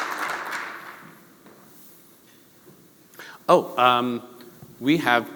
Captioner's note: applause